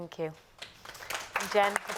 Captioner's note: applause